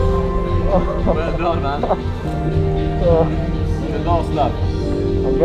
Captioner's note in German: Geräusche der Erschöpfung und Erleichterung